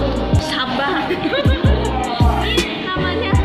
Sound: laughs

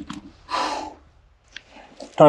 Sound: exhales deeply

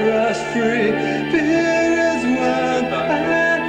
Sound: alarm bells ring

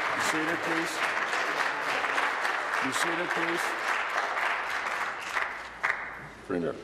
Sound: applause

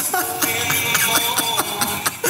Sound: laughs

